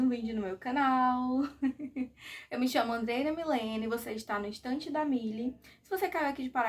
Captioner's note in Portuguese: risadas